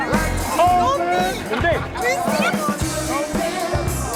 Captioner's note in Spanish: Exclamaciones